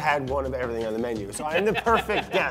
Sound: laughs

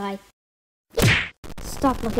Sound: bonk

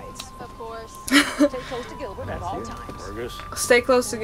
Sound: laughs

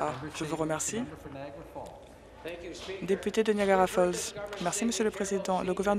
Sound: applause

